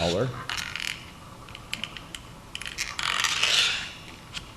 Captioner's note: cardstock creaking